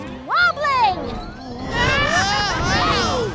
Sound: yelling

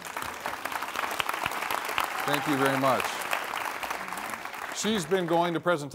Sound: applause

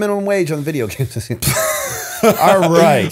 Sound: laughter

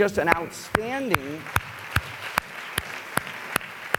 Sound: applause

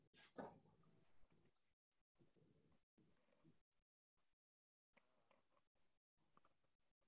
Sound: silence

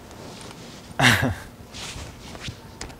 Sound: sheepish laugh

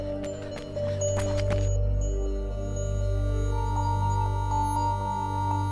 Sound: man whispering

